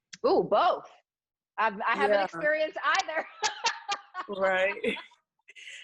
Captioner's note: laughs